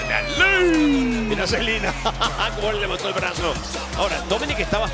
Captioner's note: laugh